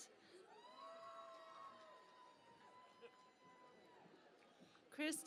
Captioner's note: cheering and Applause